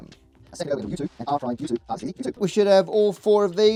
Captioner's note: sped up audio